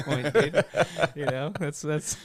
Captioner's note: laughing